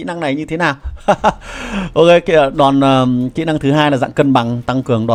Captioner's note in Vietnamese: tiếng cười